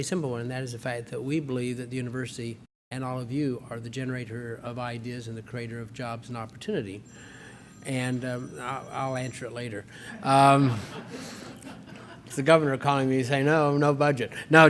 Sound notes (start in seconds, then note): 7.0 phone rings; 10.1 laughter